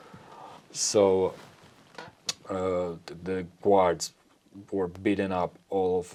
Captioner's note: lip smack